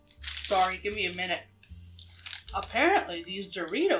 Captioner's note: chip crunch